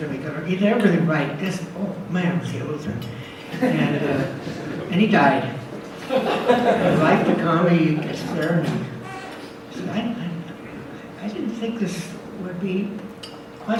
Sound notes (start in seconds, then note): 3.5 audience laughs